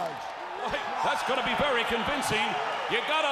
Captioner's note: crowd cheering